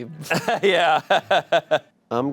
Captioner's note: laughs